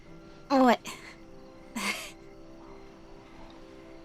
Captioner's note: chuckling